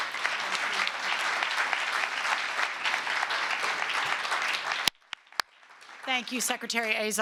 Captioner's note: applause